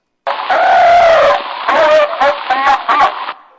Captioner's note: trills